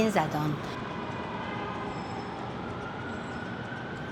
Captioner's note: distant honking and traffic